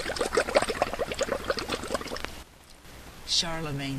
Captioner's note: sound of bubbles in water